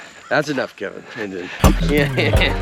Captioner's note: laughs; upbeat music